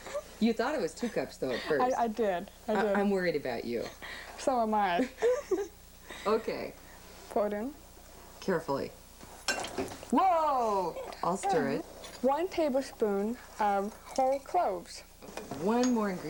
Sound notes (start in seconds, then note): 5.0 laughing